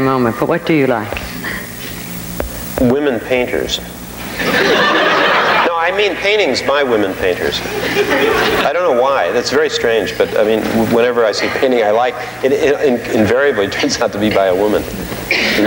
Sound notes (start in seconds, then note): 4.2 audience laughing